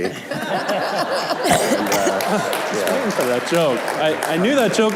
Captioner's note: laughing, clapping